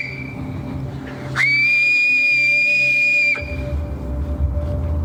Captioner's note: whistles; loud constant whistle